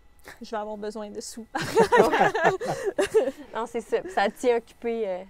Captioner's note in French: rires